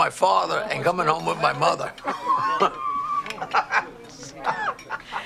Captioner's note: man laughing